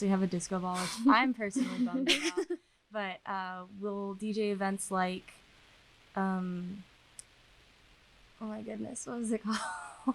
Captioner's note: laughter